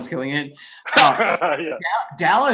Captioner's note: laughs